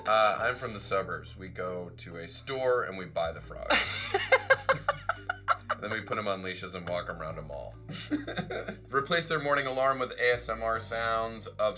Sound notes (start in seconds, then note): 3.7 Charlize laughs; 7.9 both laugh